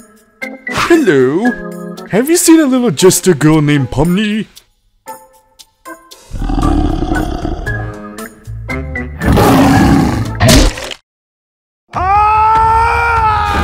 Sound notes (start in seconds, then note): 6.3 growls; 10.4 bites; 11.9 screaming